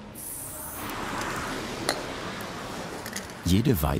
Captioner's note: traffic rushes past